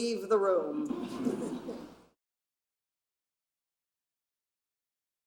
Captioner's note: audience laughing